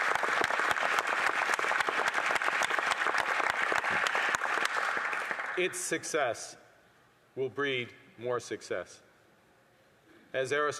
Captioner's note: applause